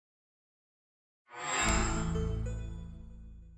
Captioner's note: chime